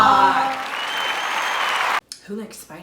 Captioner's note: audience applauding